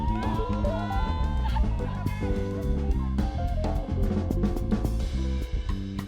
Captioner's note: students cheering and laughing